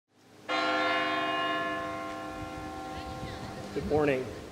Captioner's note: bells ringing